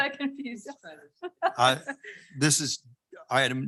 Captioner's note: laughing